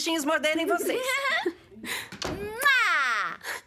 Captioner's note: giggling, kissing